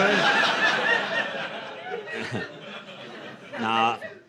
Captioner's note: laughter